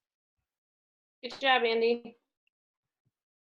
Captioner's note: fast Speaking Woman